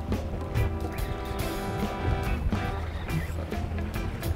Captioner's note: reel buzzing